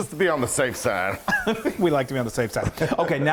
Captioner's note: chuckling